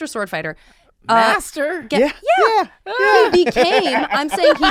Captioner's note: laughs